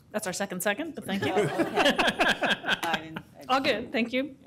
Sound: laughter

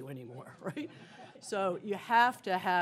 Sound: laughter

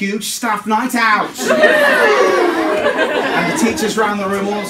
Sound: cheering

